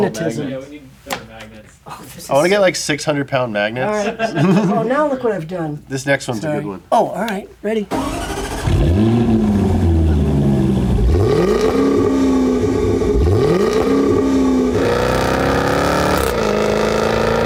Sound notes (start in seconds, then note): 3.8 laughs; 7.9 engine starts; 11.0 engine revs